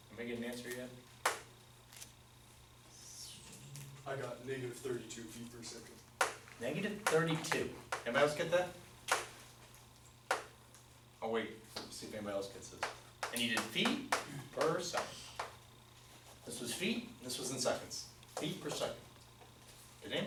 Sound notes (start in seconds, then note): 4.3 voiceover